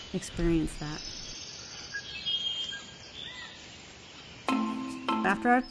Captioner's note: jungle sounds